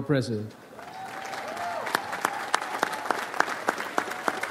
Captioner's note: audience applauds